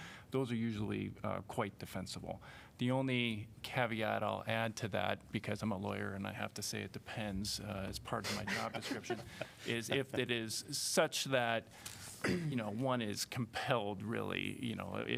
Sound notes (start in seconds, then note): 8.3 laughter